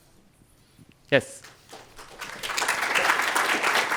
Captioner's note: audience clapping